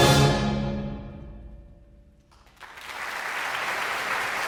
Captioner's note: audience applauding